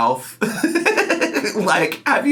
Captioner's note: laughing